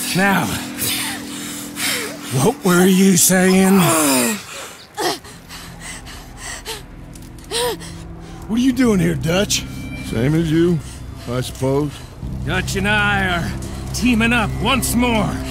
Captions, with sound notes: Now, what were you sayin'? (grunts) - What are you doin' here, Dutch? - Same as you, I suppose. - Dutch and I are teamin' up once more.